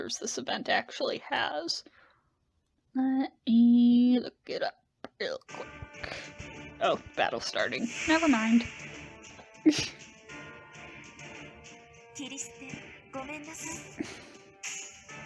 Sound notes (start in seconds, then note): 9.6 laughs